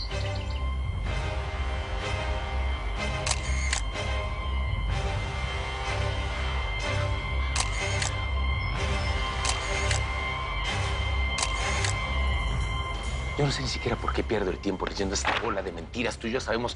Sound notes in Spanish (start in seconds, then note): 3.2 Sonido del obturador